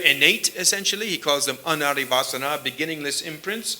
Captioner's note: sanskrit